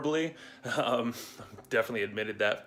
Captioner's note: laughs